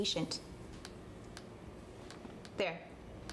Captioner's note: more Typing Sounds